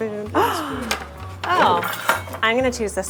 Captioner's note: gasps